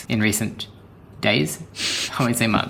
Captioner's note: chuckles slightly